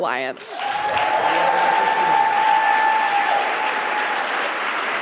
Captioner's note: audience applauding